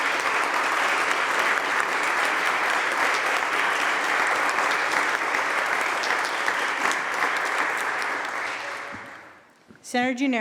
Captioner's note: applause